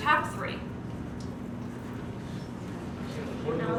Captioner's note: background Discussion